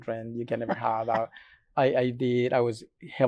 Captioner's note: laughs